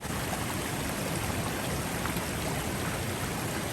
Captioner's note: water trickling